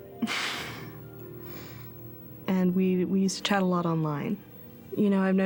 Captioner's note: chuckles